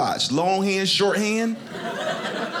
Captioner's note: audience laughing